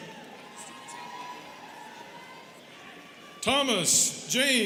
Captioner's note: students cheering